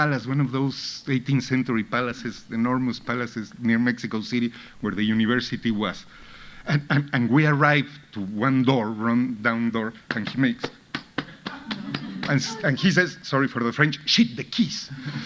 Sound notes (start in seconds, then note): 10.0 hands patting; 11.3 audience laughing